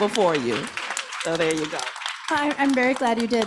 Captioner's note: audience applauding